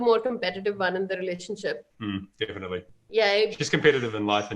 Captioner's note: chuckles